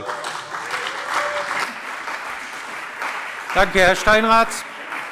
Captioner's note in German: Lebhafter Beifall CDU, Beifall BÜNDNIS 90/DIE GRÜNEN